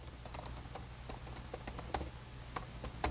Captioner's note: typing